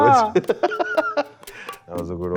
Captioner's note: laughs